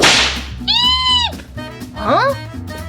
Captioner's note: terrified screeching